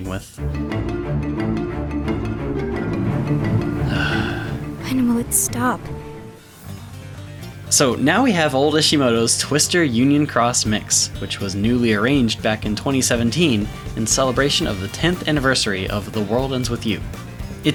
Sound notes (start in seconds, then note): 3.8 sigh